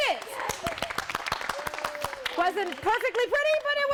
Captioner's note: applause